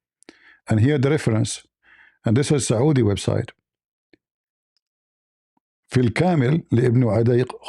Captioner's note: Arabic